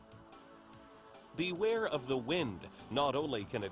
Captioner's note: voiceover